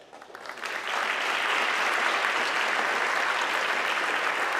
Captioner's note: audience clapping